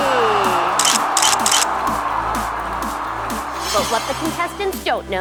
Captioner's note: camera shutter clicks